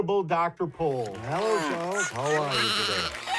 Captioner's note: applaud